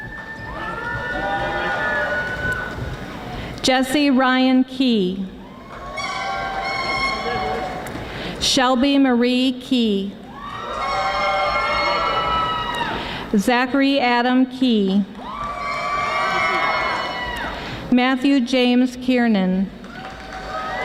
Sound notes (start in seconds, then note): 5.4 audience screaming; 10.8 audience applauding; 15.2 audience yelling; 19.8 audience applauding